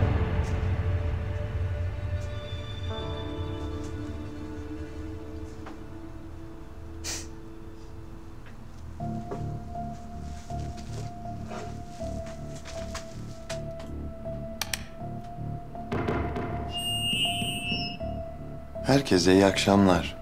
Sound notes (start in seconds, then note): 16.7 microphone rings